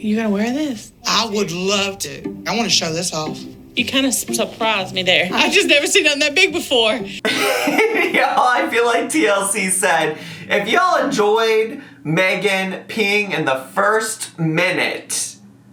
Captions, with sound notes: You gonna wear this? - I would love to, I wanna show this off. - You kind of surprised me there. I just never seen none that big before. - (laughs) Y'all I feel like TLC said, "If y'all enjoyed Megan peeing in the first minute